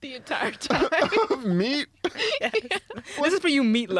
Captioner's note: laughing